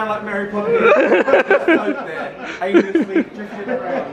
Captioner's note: laughing